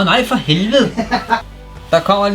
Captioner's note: laughs